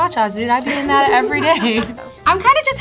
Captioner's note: laughs